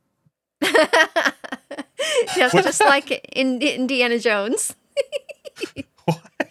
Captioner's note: laughing